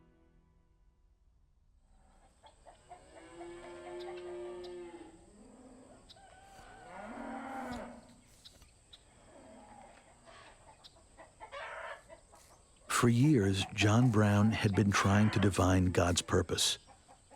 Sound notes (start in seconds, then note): 3.1 cows mooing; 6.2 rooster crowing